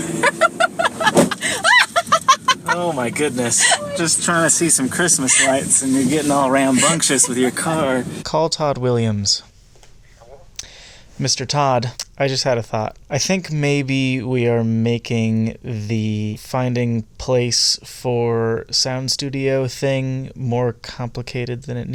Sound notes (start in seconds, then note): 0.0 laughs hysterically; 9.8 over the phone